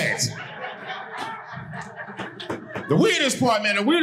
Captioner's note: audience laughing